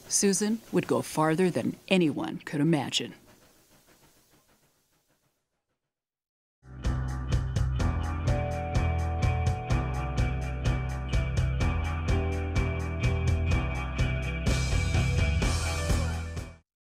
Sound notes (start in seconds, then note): 3.6 training chugging away